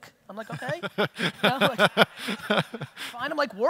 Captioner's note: audience laughter